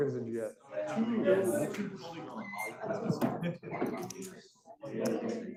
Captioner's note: students chattering